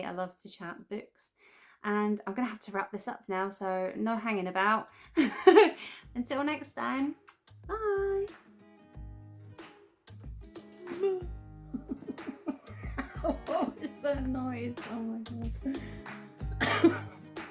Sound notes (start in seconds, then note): 7.2 kiss; 11.8 makes weird mewing sound